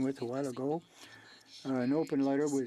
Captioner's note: speaking French